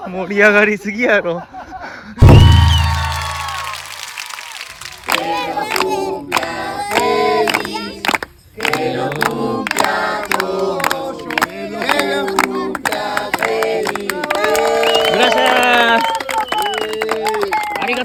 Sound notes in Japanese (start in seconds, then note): 2.2 大歓声; 8.6 拍手; 14.2 大歓声